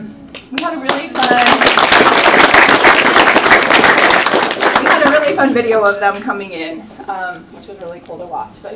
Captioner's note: applause